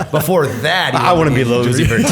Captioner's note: laughter